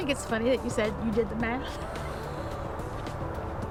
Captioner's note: laughs